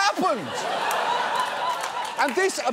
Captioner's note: studio audience laughs